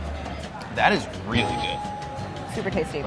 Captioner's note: bell dinging